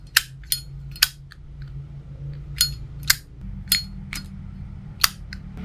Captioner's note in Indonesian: Zippo Cling/Click